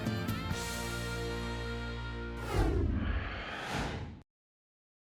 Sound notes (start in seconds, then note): 2.4 whoosh